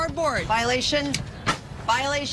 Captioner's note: shears snapping closed